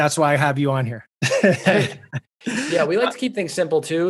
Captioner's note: chuckles